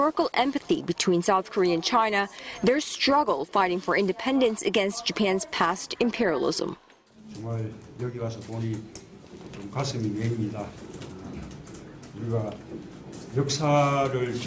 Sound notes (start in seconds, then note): 6.5 Korean